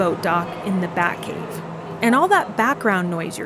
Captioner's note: echoing voices and fans humming